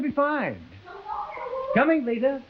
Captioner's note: Veta calling faintly from far